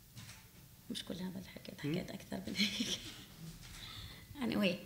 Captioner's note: speaking arabic